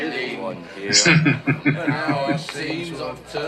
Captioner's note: laughing